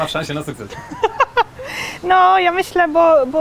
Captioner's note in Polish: śmiech